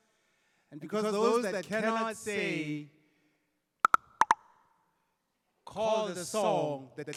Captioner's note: clicking